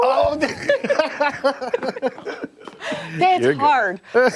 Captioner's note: laughter